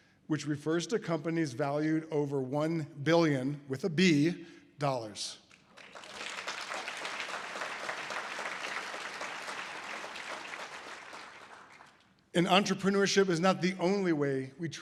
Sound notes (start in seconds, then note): 5.7 audience applause